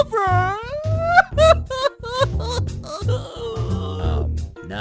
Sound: crying

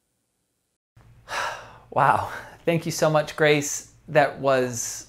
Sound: sighs

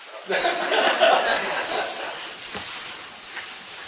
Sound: crowd laughs

